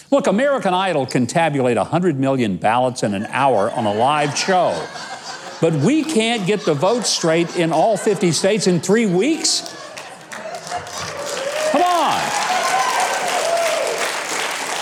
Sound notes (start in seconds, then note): 4.7 audience laughs; 10.0 audience cheers and applauds